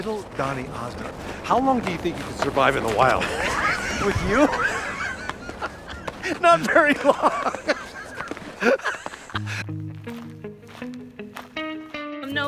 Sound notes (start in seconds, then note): 7.6 laughs; 9.8 upbeat music